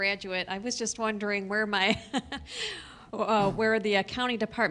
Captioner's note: chuckling